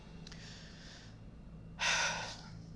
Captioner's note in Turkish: İç çekiyor